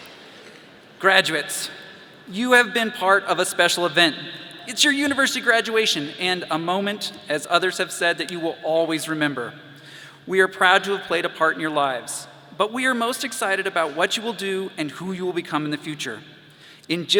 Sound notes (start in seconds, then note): none